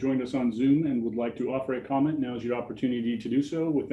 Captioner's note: faintly speaking